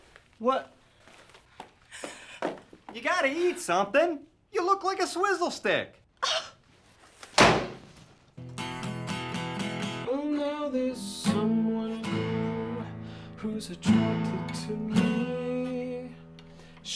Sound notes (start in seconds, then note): 7.3 door slams shut; 8.4 pleasant guitar music